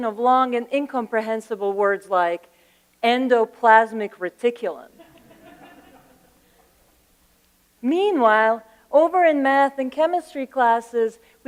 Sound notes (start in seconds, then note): 5.0 laughter